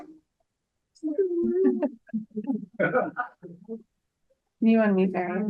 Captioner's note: members and attendee laughing; speaks faintly